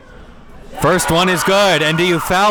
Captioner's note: audience cheering